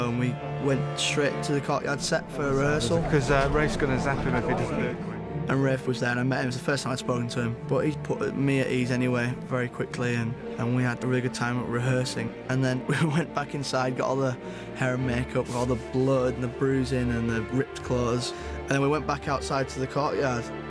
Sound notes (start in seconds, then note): none